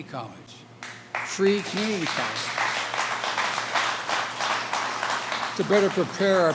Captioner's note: applause